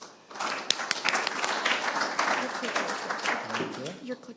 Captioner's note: audience applauds